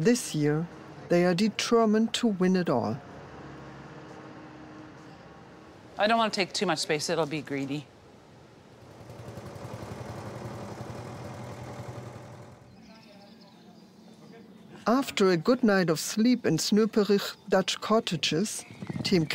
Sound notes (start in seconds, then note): 8.6 forklift engine rumbling; 13.1 birds chirping